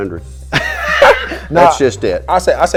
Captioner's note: laughing